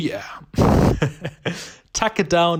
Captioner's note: laughing